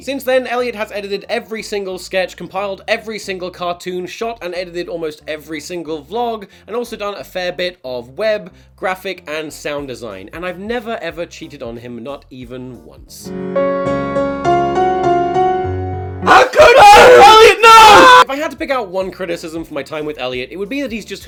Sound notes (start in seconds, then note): 16.2 screaming and crying